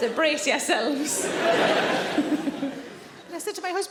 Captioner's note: audience laughing; Sarah laughing